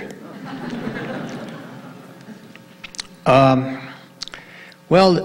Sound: audience laughing

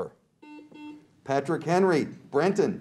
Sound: buzzer beeps

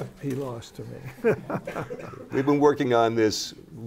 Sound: laughter

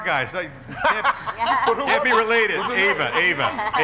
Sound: lauging

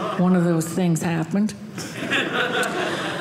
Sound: audience laughing

